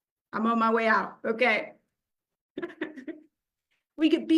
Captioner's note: chuckles